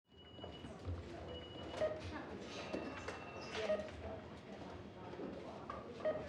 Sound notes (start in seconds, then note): 1.8 device beeps slowly